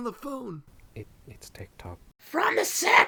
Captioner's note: shouting to someone; under breath